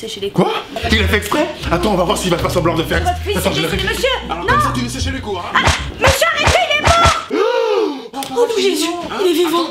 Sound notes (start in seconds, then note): 7.3 yelps in surprise